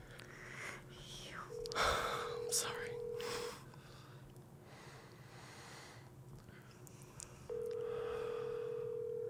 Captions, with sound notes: - You... - I'm sorry. (phone rings)